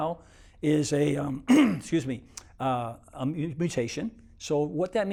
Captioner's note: clears throat